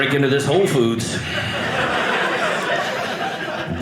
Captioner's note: audience laughing